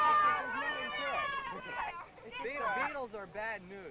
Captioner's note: loud cheering